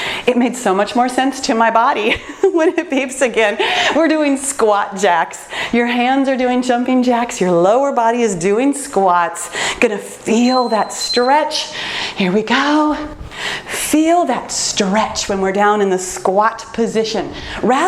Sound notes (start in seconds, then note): 10.3 timer beeps